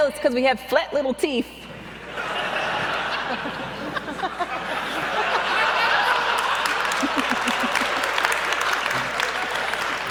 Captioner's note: audience laughs and claps